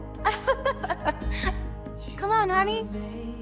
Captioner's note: laughter